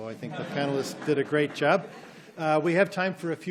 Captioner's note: audience laughs